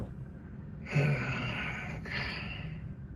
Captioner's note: incomprehensible grunt